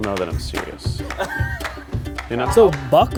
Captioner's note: laughing